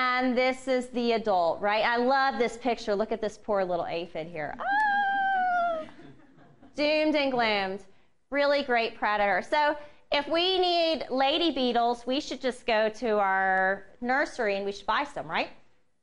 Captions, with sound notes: And this is the adult. I love this picture, look at this poor little aphid here [woman shrieks] Doomed and gloomed. Really great predator, so if we need lady beetles, we should just go to our nursery and buy some right?